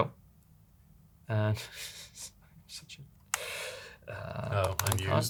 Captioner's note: laughter